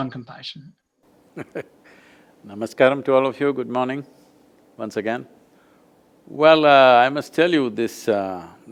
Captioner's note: laughs